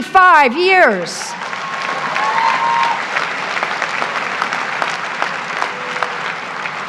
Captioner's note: graduates cheer; graduates applaud